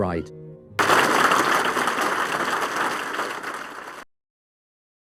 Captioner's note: audience clapping